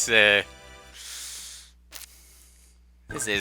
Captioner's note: breathing